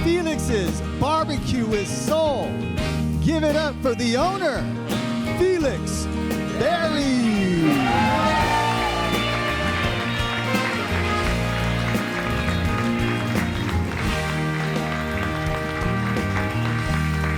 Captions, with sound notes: From Felix's BBQ with Soul. Give it up for the owner, Felix Berry! - Come on, Felix! (audience applauds and cheers) (audience whistles) (upbeat music)